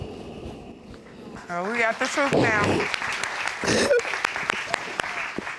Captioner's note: audience applauding